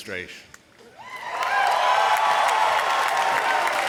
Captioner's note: applause